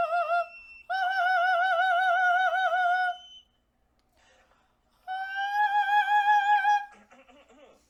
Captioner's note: falsetto